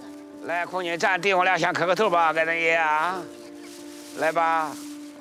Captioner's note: hablan un idioma extranjero